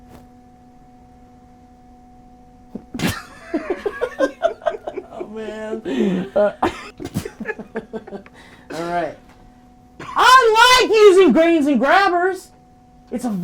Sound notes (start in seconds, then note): 3.0 people laughing